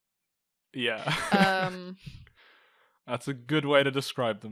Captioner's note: laughing